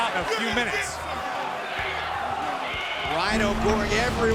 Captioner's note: crowd cheering